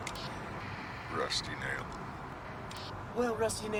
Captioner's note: in a "woman's voice"